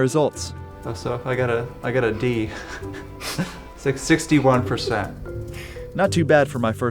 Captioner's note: chuckles